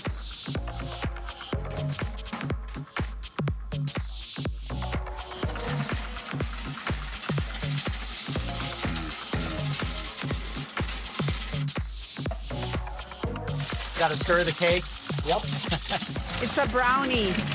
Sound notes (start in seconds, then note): 0.2 electronic music; 4.8 materials clanking; 5.5 electronic music; 14.8 laughs